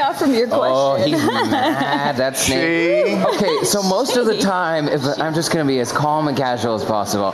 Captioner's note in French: laughter